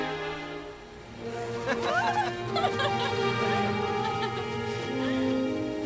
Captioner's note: both Laughing